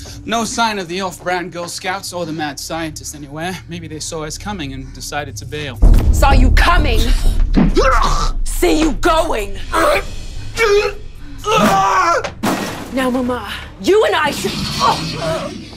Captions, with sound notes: No sign of the off-brand Girl Scouts or the Mad Scientist anywhere. Maybe they saw us coming and decided to bail. Saw you coming! See you going! [goon-getting-his-a$$-whooped sounds] Now Maman, you and I-- ughh!